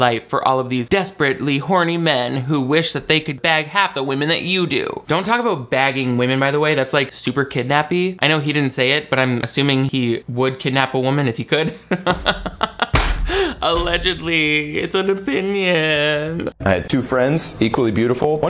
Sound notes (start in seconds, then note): 11.8 laughing